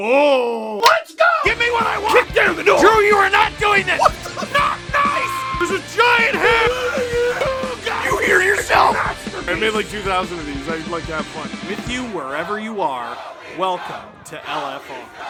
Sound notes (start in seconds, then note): 8.1 screaming; 8.8 Harry potter screaming